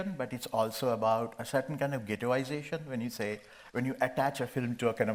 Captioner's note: none